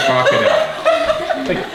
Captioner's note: group laughs